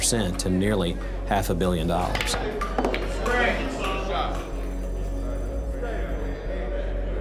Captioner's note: bell ringing